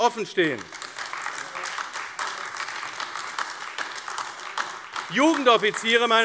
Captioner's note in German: Beifall AfD - Zurufe DIE LINKE